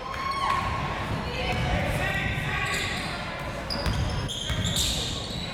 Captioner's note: crowd members shouting